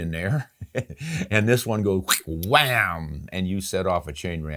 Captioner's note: vocalizes